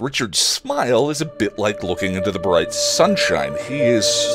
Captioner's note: heavenly chime